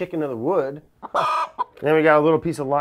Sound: chicken clucking

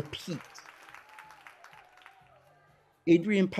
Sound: audience applauds

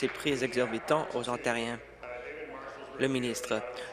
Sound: applause

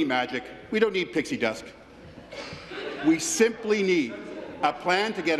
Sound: laughter

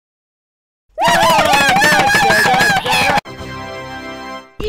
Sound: italian gibberish

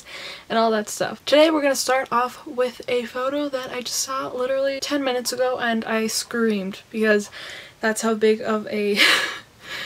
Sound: laughs

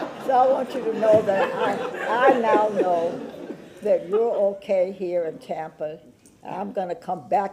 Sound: laughter

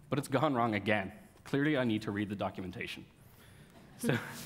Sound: laughs

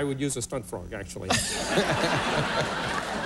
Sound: laughter

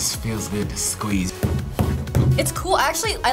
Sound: table thuds

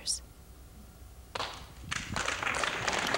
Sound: applause

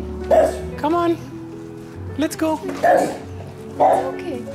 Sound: bark; barks

